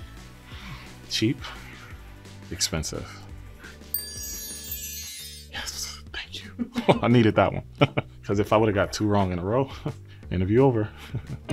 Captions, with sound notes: Cheap. Expensive. (text tinkling) Yes. Thank you. (woman chuckles) Oh, I needed that one. (chuckles) 'Cause if I would've got two wrong in a row, then it'd be over.